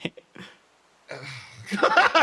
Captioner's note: Etete Giggle; Yaiyo Sigh